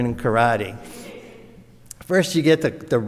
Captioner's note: audience laughs